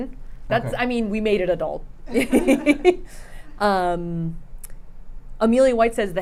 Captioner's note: laughs